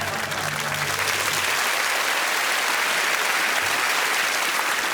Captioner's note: applause